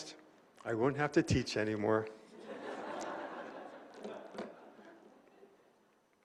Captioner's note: laughter